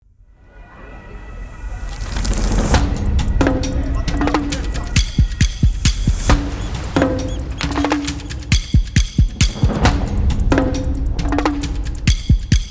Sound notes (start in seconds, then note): 2.1 sirens wailing; 4.4 tense rhythmic music; 6.2 seagulls screeching